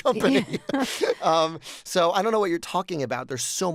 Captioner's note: laughter